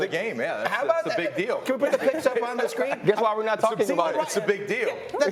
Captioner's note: laughter